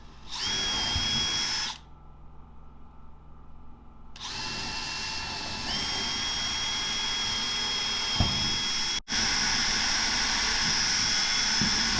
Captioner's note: saw whirring; wood thudding